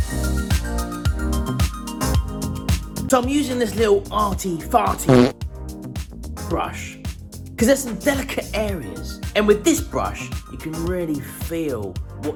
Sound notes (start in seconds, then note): 5.0 farts